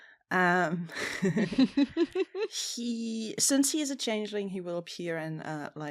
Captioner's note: laughter